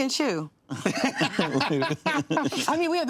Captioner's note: laughter